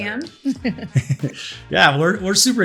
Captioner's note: laughter